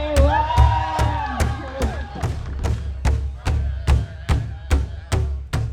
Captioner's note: crowd cheers loudly